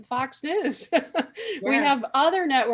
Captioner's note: laughing